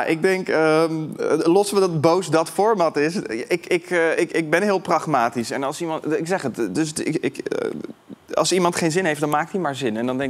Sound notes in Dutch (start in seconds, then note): none